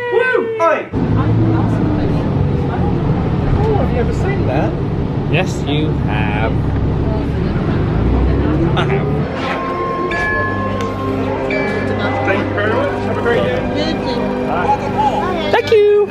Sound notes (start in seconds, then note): 10.2 MagicBand dinging